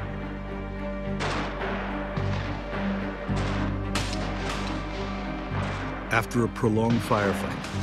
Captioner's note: gunfire